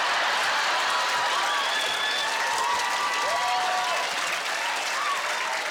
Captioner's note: cheering